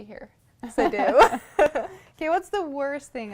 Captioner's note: laughter